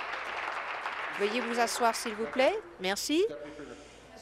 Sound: applause

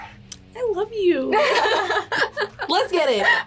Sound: both laugh

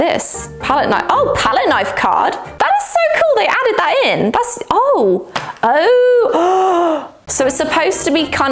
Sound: gasp

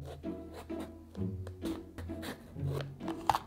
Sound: knife cutting

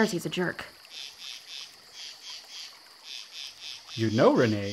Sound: insects buzz

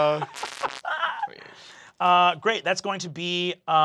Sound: laughs

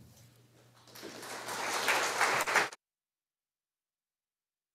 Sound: audience applauding

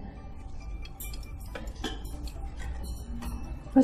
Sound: tv noises

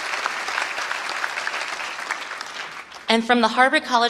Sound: applause

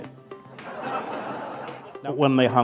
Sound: laughter

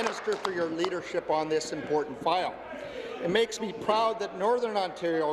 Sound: applause

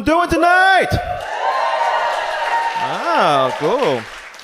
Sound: audience cheers

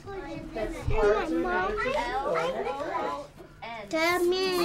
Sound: background chatter

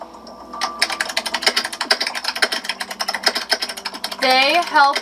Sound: keyboard clicking

